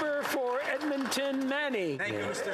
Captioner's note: some Applause